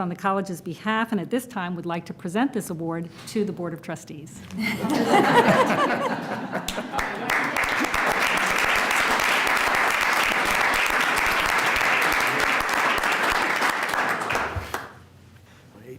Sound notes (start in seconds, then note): 6.6 applause; 7.3 laughter